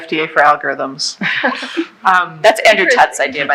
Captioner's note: laughing